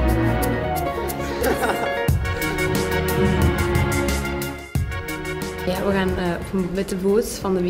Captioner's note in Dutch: jongen lacht hardop